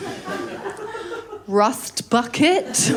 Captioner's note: laughter